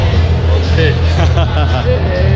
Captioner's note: laughter